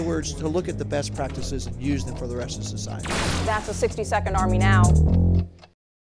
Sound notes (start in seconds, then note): 3.4 clock ticking; 4.4 bass guitar playing